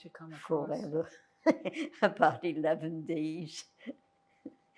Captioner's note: laughing